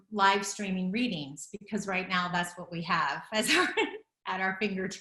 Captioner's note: laughs